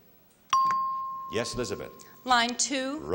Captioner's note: chimes